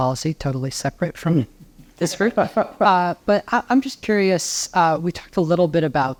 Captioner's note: laugh